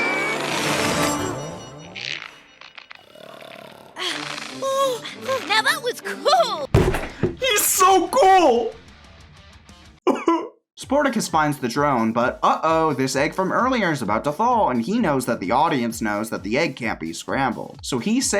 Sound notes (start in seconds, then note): 3.8 slams hand on counter